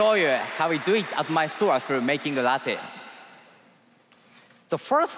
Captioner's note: cheers and applause